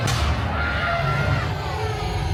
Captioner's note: thunderclap; young guest screaming